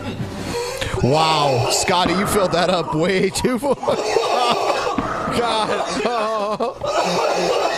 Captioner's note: laughing